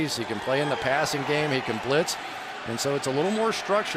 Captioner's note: crowd cheering